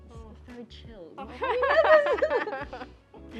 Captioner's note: laughs